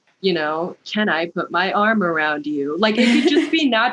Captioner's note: robotic voice